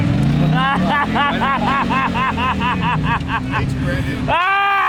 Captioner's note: loud laughing